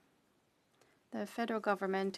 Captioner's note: speaking French